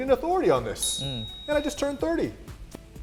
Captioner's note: bell dings